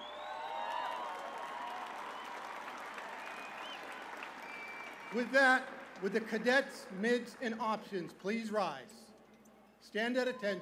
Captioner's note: cheers and applause